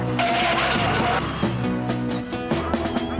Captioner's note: tires Squealing